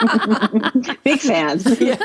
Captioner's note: laughing